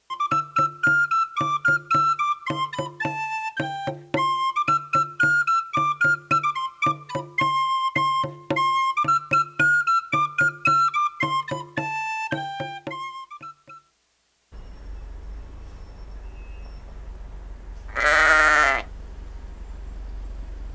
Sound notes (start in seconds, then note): 14.5 Bruitages de vent; 17.8 Mouton qui bêle; 18.8 Bruitages de vent